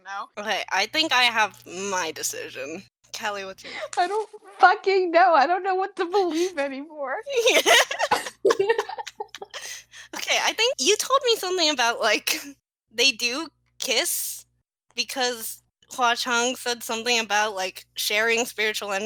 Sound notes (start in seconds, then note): 7.3 laughing